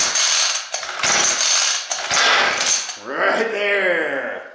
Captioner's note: engine throating